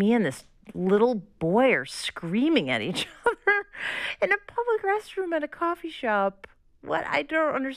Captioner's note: laughter